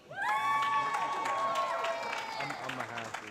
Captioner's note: applause